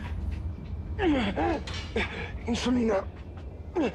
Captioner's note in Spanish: Quejidos